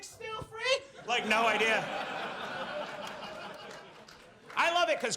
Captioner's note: audience laughs